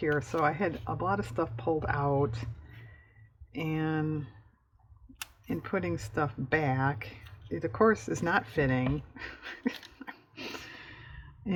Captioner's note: laughs